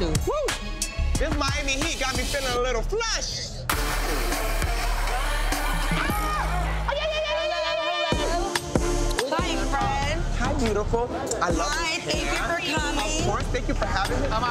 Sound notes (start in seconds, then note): 3.2 upbeat instrumental music; 5.9 exclaiming